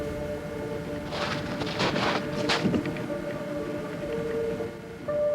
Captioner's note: undergrowth crunching